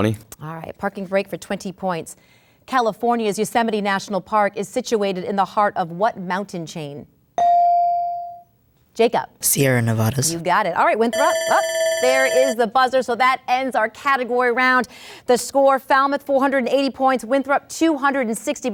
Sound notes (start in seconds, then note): 7.4 ding; 11.1 buzzer